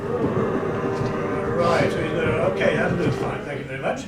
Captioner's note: audience making drilling noise rrrrrr